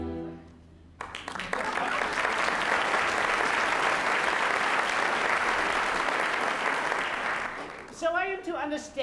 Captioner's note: applause